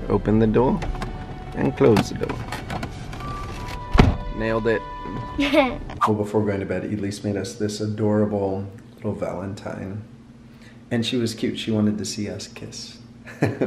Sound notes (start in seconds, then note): 5.4 chuckles; 13.3 chuckles